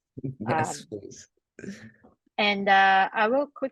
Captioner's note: laughs